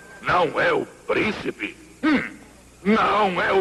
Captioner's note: coughs and wheezes